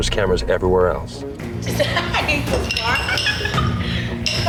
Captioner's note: laughs